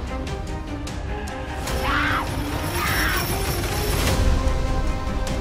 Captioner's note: Elizabeth screams